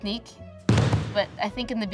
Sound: thump

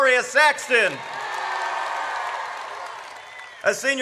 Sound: audience cheers

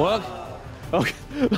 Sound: golf audience sigh sound effect

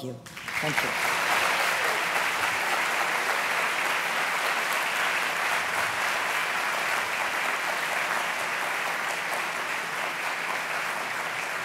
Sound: applause

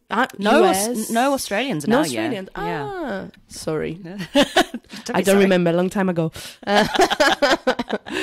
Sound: laughs

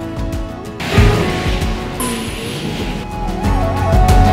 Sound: car engine roaring; upbeat music

